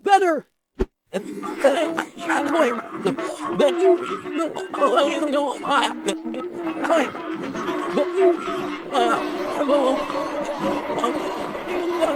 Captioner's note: crowd laughs, echos